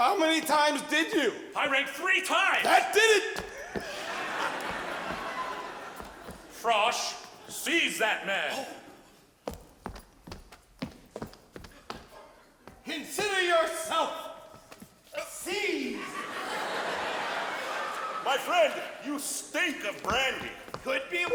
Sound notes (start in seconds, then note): 3.5 audience laughs; 8.9 footsteps; 15.8 audience laughs